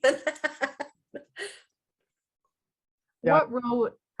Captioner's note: chuckling